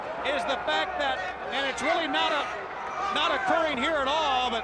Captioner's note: crowd chatter